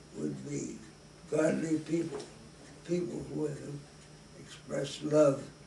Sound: none

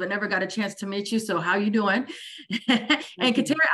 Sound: laughs

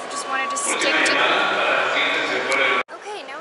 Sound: announcement on overhead speakers

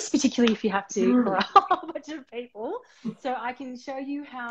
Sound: laughing

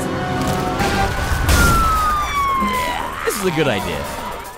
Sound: police siren

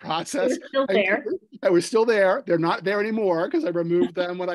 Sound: laughter

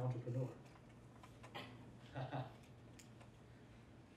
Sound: laughs

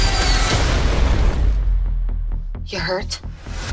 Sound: rocket explodes

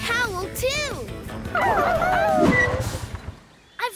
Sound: howling

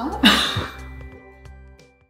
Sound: laughing

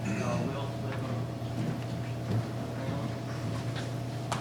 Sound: faintly speaking

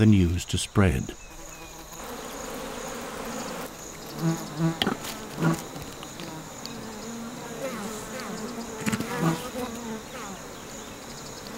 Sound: bees buzzing

